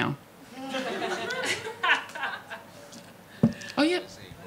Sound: audience laughing

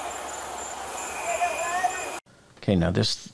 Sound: background talking

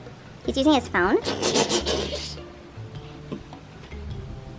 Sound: laughing

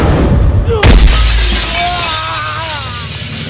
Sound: glass shatters

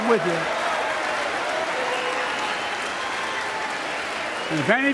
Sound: applause

